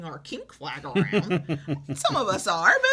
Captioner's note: laughs